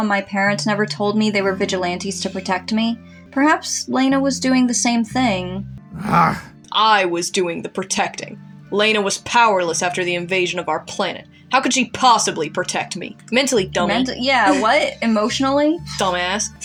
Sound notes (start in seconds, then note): 5.9 growls; 15.8 chuckle